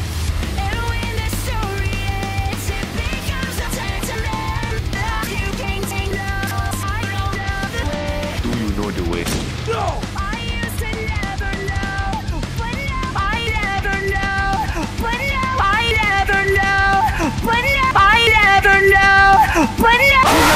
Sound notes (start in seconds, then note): 9.2 gunshot